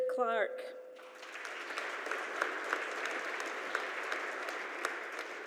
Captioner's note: audience applauding